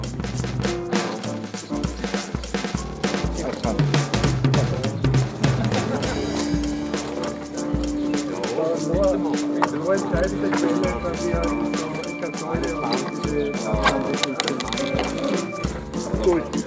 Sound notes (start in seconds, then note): 8.2 participants chatting